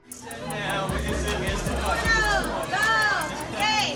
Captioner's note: people chattering